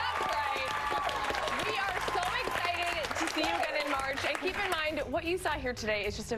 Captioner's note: cheers and applause